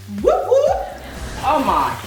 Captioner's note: laughter